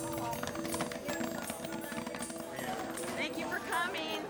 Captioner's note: popcorn pops